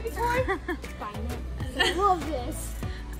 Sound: laughing

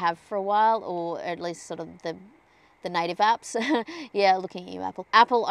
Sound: scoffs

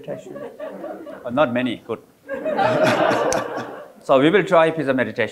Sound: audience laughing

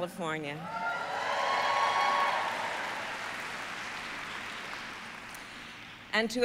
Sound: applause

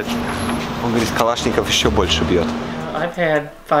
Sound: speaking in foreign language

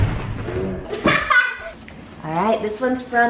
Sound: laughs

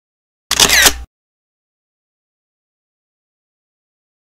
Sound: camera shutters

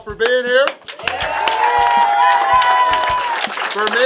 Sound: cheering & Clapping

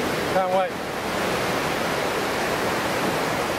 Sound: waves crashing

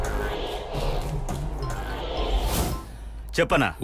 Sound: phone rings

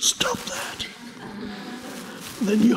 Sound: audience laugh

